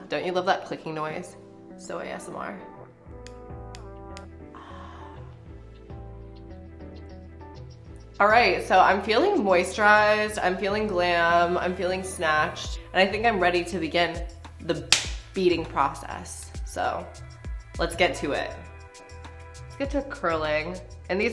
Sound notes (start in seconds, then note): 3.1 lip balm clicking; 5.6 relaxing music